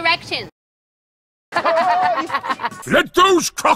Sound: laughter

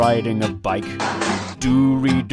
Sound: crash

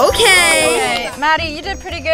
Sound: group chattering

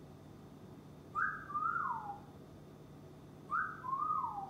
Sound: bird whistles

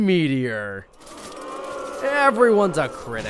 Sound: canned booing

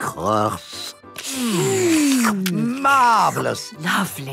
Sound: slurping

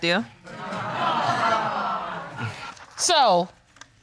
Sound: audience titters

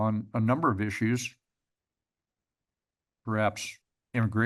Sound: pause

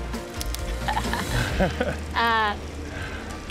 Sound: both laughing

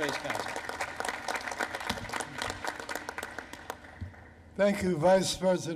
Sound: applause

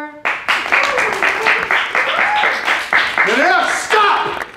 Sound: class cheering

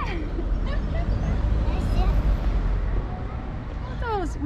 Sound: laughs

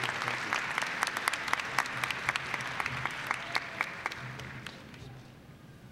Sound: applause

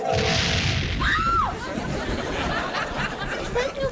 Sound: screaming

